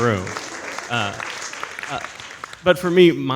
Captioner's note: audience applauds